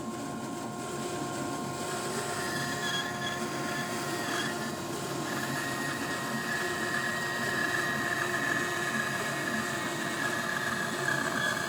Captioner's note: sawing